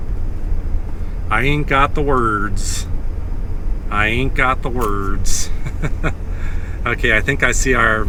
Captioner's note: laughs